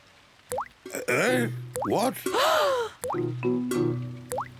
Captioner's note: oinks; all gasp